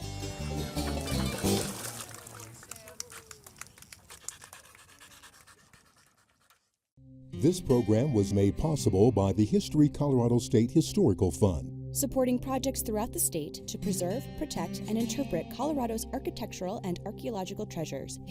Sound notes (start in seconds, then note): 0.0 upbeat acoustic music; 4.0 panting